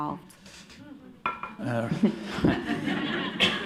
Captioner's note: laughter